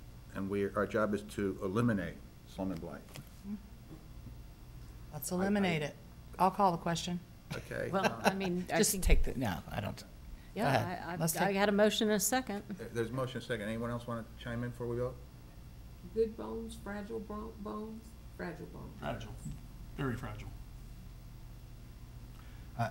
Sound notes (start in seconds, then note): 7.5 chuckles